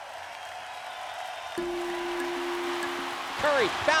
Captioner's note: crowd cheering